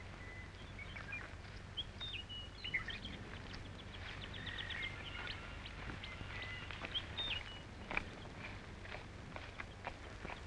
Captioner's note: birds chirping